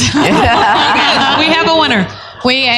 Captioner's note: laughter